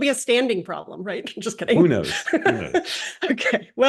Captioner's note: laugh